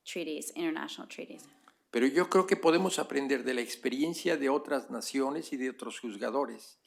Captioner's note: spanish